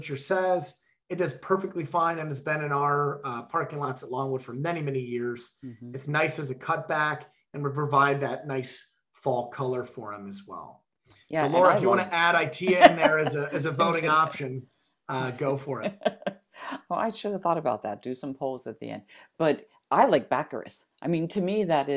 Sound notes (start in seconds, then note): 15.2 laughs